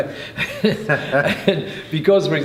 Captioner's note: laughing